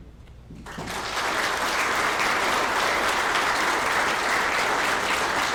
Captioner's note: applause